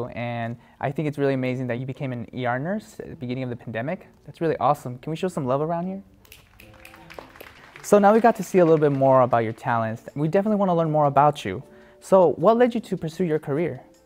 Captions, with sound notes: and I think it's really amazing that you became an ER nurse at the beginning of the pandemic. That's really awesome. Can we show some love around here? (audience applauding) So now we got to see a little bit more about your talents, we definitely wanna learn more about you. So, what led you to pursue your career?